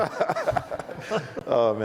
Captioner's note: laughs